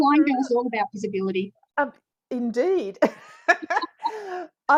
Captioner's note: both laugh